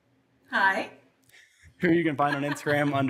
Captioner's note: laughs